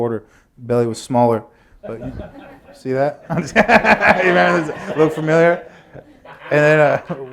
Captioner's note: laughter